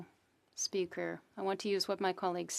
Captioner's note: speaking French